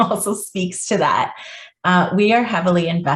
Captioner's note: chuckles